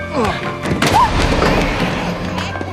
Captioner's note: Alicia gasps; baby crying